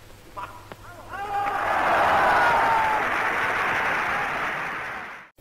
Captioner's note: cheers